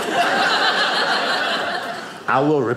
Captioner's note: audience laughing